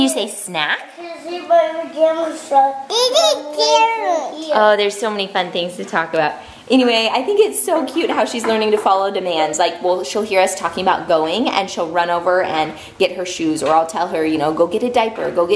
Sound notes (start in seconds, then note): 3.0 baby talk